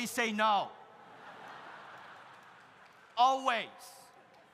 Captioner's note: audience laughs